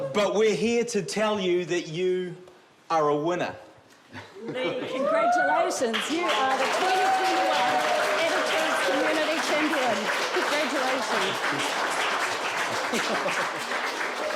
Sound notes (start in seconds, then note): 9.3 cheering, applause; 12.3 applause continues